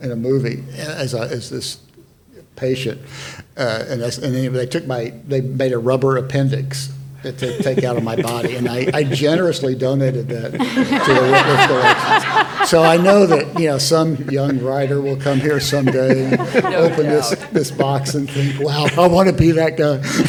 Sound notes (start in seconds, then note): 12.2 all laughing